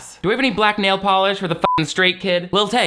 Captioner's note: beep